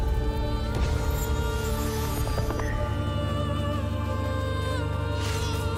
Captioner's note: crackling